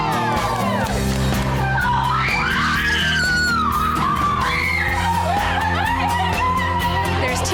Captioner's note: upbeat guitar music; women cheering